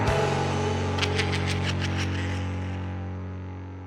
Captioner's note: wicked laughter